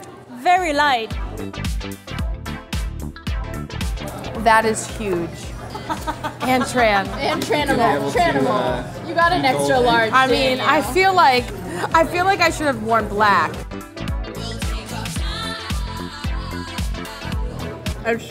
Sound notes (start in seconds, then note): 1.9 upbeat music; 5.6 laughing